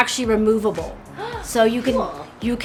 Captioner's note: gasps